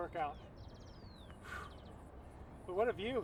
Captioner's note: whew